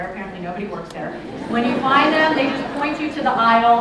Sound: laughter

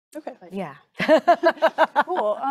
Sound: laughing

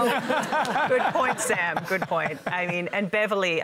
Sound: laughter

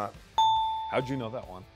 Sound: bell dings

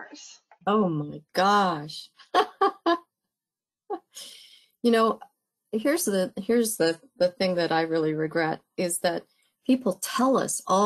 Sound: laugh

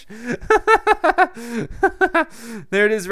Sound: giggles

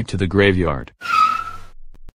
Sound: skrt skrt

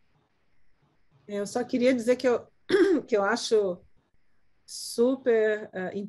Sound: speaking in Portuguese

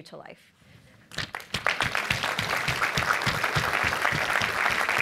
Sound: applause

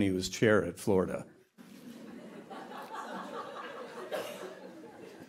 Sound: laughter

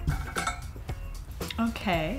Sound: pot rattles; upbeat music

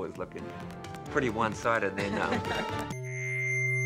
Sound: laughing

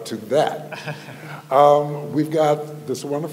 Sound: laughing

